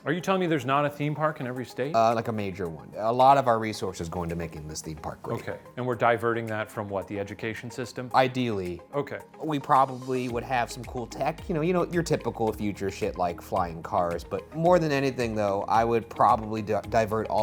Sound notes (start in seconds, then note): none